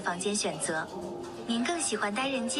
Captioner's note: non-english